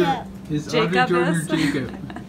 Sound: laughs

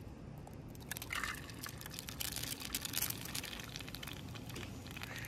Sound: egg sizzling

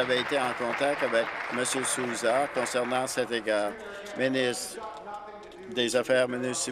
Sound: applause

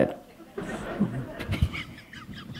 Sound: laughter

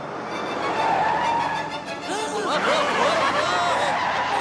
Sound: all groaning

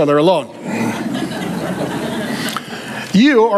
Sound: congregation laughing

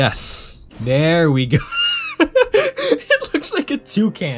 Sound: laughing

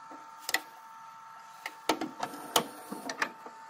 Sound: VHS Tape recorder winding a tape

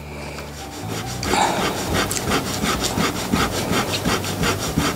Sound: eraser rubbing

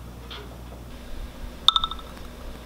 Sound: text notification

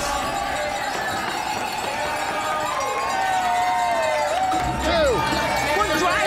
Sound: clinking glasses; crowd cheering

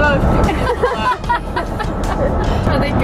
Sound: laughs

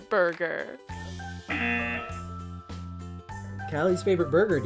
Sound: buzzer buzzes

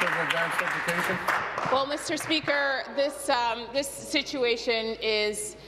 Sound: applause

